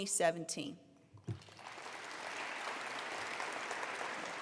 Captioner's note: applause